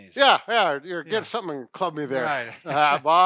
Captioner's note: laughs